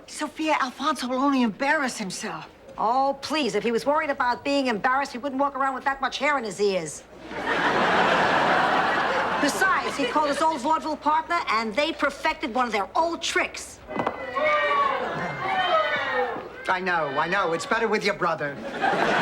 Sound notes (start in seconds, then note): 7.2 audience laughing; 14.0 crowd booing; 14.1 pins hitting the ground